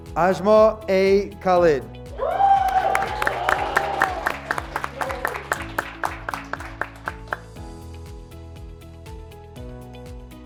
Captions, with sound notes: Asmar A. Khalid, (graduates clapping) (graduates cheering)